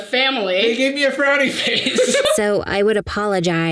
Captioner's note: Sadie laughing